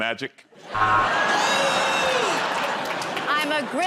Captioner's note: laughter